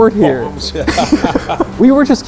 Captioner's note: person laughing